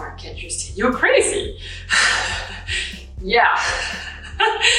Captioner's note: laughs